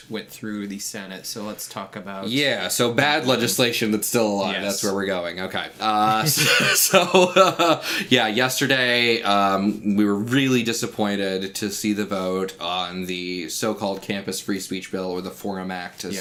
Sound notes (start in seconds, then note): 6.2 laughs